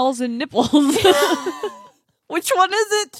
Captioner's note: laughs